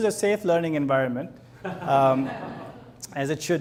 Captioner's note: audience laughs